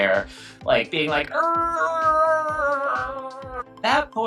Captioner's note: grunting